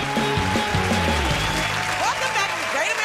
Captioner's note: cheers and applause